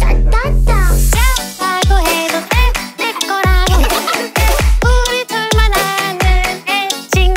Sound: 'deep' voice

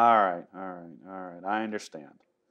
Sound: laughs

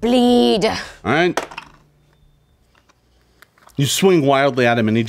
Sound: dice clatter

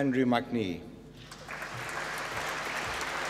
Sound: applause

